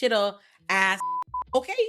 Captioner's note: beep